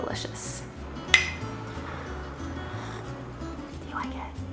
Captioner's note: mugs bumping